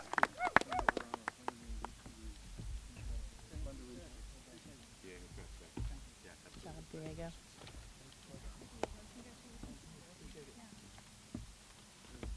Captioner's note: applause